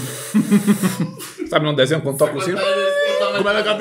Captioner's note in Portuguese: risos